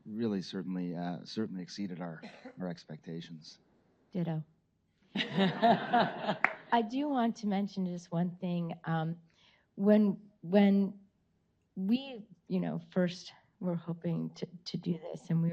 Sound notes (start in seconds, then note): 5.2 Dr. Gupta and audience laughing